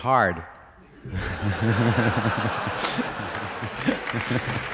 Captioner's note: laughter